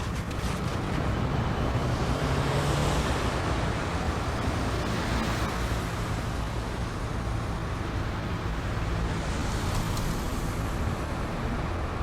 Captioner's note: car engines rumbling